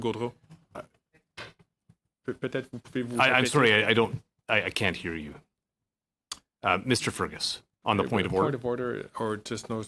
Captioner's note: speaking French